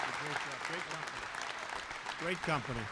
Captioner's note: applause